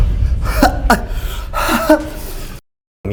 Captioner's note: nasty coughing